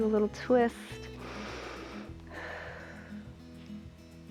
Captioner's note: inhales and exhales